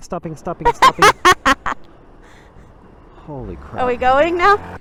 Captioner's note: laughing